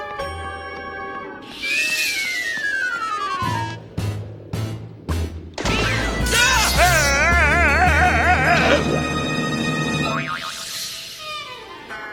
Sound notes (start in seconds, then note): 6.3 screaming